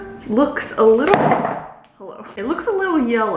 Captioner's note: jar clacking